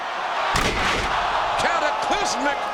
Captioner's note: audience groans; body thuds